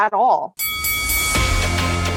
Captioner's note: bell Dings